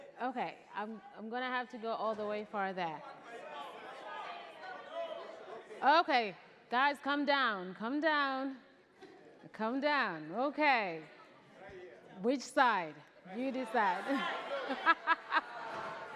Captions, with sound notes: Okay, I'm going to have to go all the way far back. (crowd clamoring) Okay, guys, calm down, calm down. Calm down, okay. Which side? You decide. (laughs)